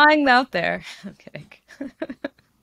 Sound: laughs

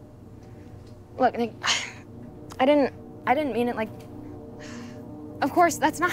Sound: sighs

